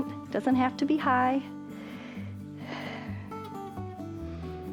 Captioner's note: inhales and exhales